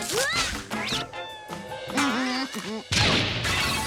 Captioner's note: evil laughing